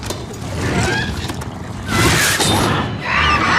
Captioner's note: Demogorgon growls